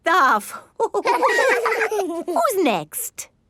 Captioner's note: all laughing